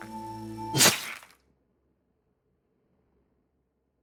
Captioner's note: swish